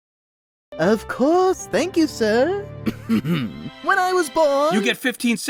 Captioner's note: clears throat